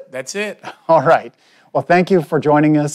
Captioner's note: chuckles